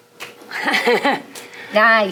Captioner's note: chuckling